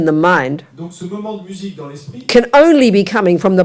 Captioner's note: audience member speaks in French